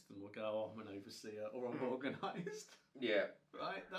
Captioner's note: laughs